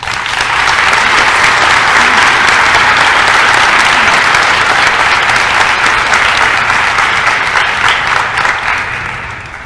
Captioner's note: applause